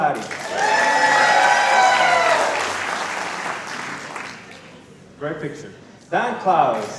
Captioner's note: applause